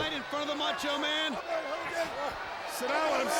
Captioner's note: people yelling